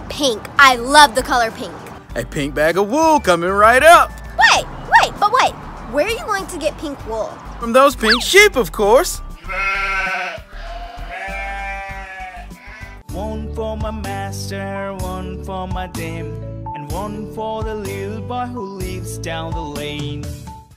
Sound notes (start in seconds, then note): 9.3 sheep noises baa,baa